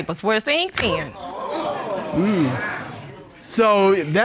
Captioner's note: audience exclaiming